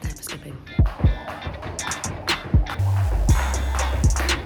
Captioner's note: rope whirring